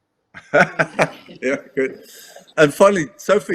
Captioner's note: laughs